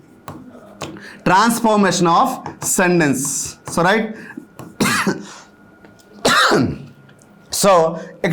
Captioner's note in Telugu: దగ్గు